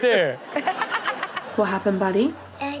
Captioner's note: Chanel laughs